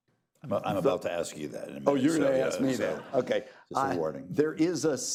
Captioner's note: laughter